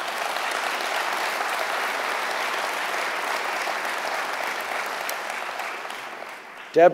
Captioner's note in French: Applaudissements